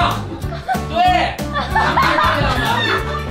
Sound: hee hee

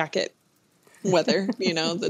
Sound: laughter

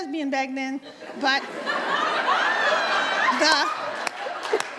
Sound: audience laughs

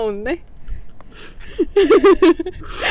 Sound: bursting out laughing...lol

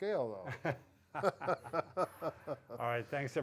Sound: both laughing

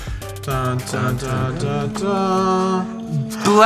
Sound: hums

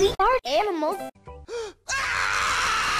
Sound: gasp; unholy screeching

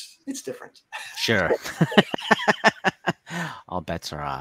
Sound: laughter

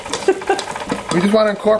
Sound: sister laughs

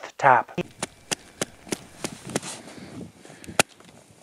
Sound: hand tapping

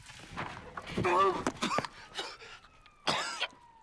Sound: coughing

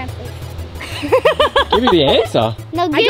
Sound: laughs

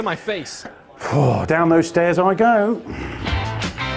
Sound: sighs; upbeat music

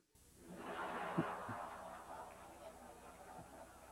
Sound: audience laughing

